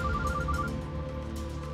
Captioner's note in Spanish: suena el teléfono